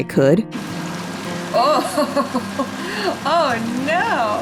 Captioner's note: me giggling